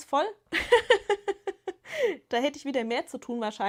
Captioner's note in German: gelächter